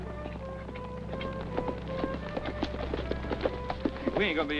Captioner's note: galloping